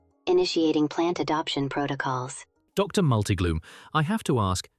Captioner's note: deep breath